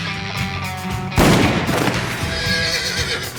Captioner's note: gunshot